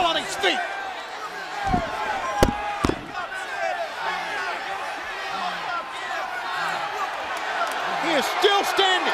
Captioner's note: crowd chatter